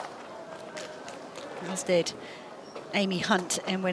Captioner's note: applause